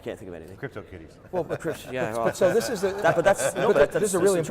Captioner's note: laughs